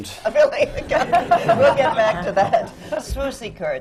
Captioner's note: laughs; laughter